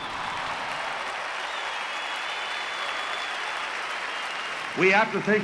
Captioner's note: applause, cheering and whistling